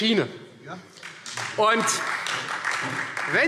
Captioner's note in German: Beifall : Ja!